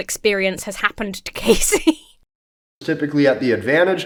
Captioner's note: laughs awkwardly